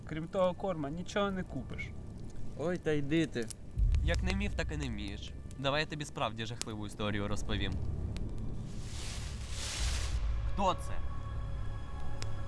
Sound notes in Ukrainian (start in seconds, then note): 8.7 кроки по листю